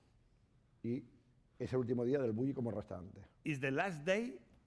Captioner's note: speaking spanish